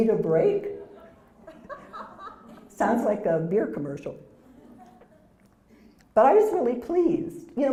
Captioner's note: laugh